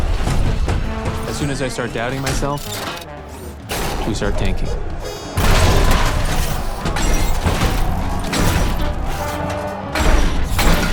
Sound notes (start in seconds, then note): 4.7 crowd clamors; 6.3 robots whir, clang